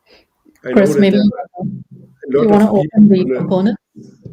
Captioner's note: group chattering